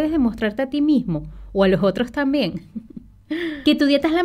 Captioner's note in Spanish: risas